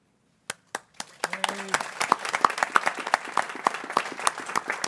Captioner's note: people clapping